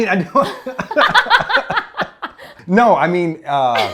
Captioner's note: laughing